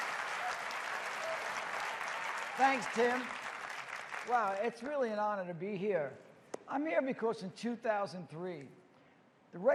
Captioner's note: cheers and applause